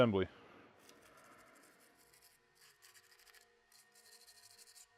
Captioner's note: brush scratches